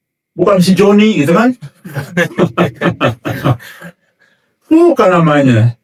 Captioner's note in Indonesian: tertawa